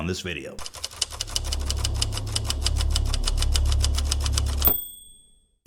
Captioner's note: intense Typewriter Sound Effect